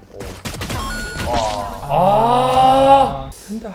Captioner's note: sigh